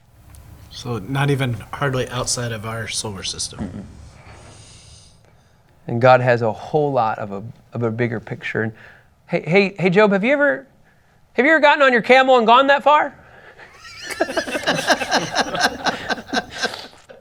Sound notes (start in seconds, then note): 13.7 laughs